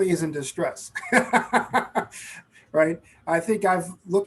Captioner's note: laughing